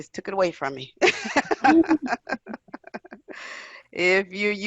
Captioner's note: laughs loudly